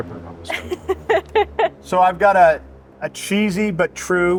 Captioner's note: laughing